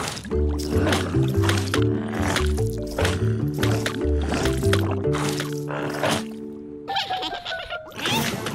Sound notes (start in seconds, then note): 6.8 chuckles